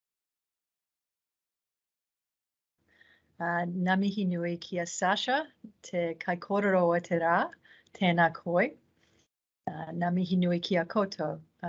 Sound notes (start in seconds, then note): 3.9 speaking in te reo Māori